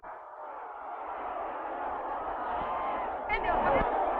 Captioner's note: crowd cheering